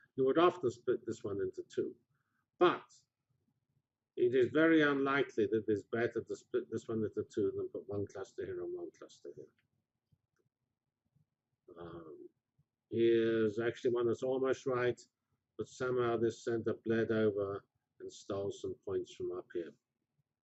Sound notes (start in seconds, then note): 9.8 pause